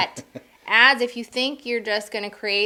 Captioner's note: laughing